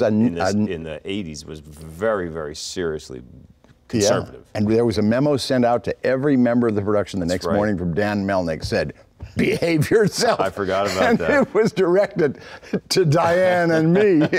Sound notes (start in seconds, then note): 10.8 laughing